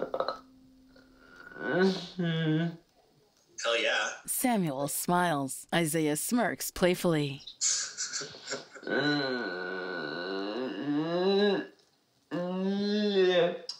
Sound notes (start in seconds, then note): 7.6 laughing